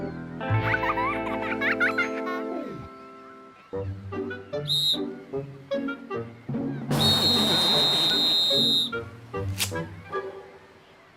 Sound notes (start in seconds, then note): 0.6 child laughing; 4.6 whistle blows; 6.9 whistle blowing